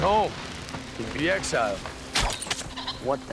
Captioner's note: arrow flies